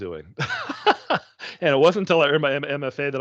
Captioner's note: chuckling